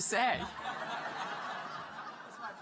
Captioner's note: laughter